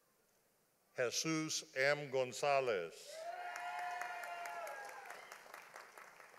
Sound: audience applauding

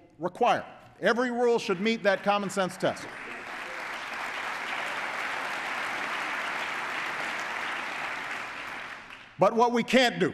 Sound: applause

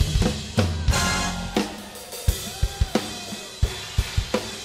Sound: cheers

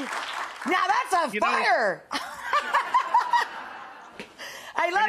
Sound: laughs

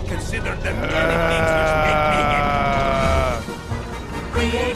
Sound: russian Growls noises

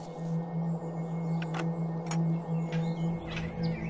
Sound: lock clicks

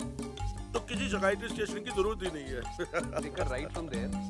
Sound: laughs

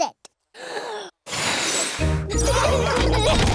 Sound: blows; laughter

